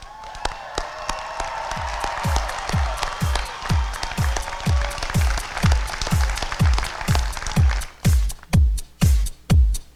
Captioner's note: applause and cheering